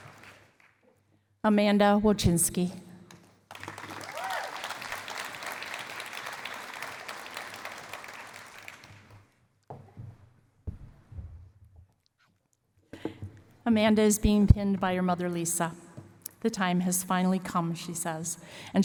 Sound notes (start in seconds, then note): 3.5 cheering and applause